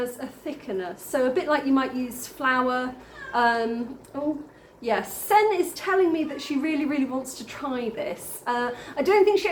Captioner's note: meow